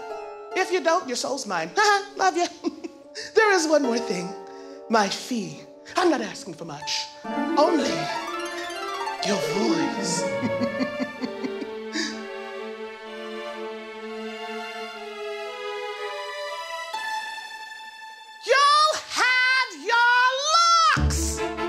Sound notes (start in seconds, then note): 2.4 chuckles; 9.3 laughing